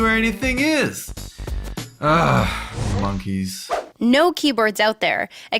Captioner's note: sigh